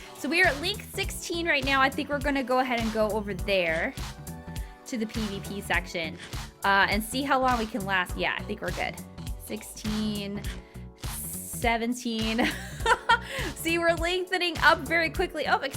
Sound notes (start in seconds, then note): 12.4 laughing